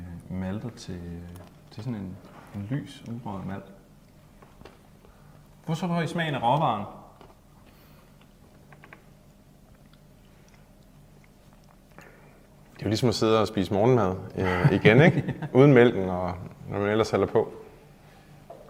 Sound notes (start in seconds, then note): 8.2 cough